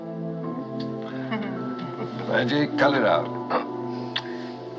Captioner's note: giggling